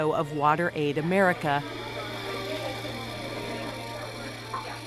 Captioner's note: espresso machine running